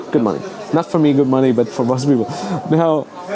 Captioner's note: chuckles